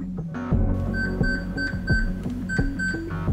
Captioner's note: Piepton